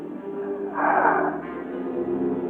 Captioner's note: exhaling